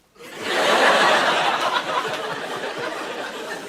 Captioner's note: laughter